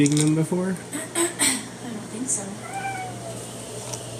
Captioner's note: clears throat